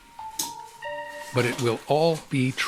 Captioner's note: light clicking